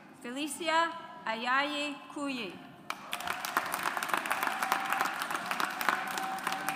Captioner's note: audience applauds